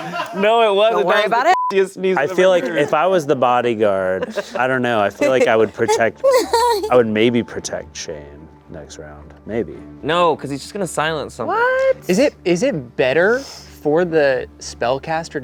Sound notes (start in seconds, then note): 1.5 beep